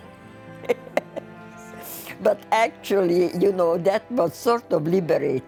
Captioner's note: laughing